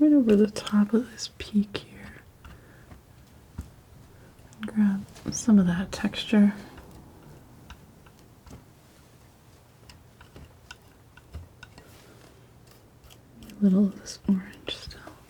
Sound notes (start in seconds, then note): 7.1 scissors snipping